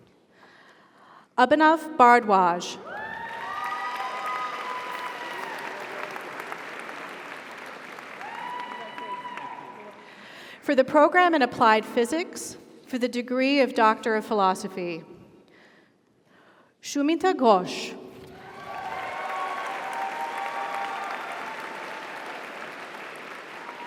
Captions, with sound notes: Abhinav Bhardwaj. (audience applauds) (audience cheers) - Congratulations. - Thank you. - You're welcome. - For the Program in Applied Physics for the Degree of Doctor of Philosophy, Sumita Ghosh. (audience applauds) (audience cheers)